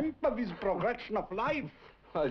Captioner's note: chuckles